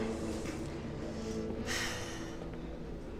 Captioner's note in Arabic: تنهد